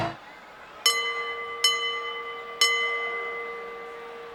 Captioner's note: bell dinging